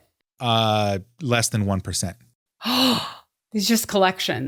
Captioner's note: gasps